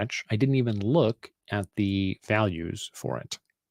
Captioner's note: none